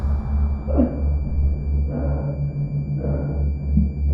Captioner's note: Leona pants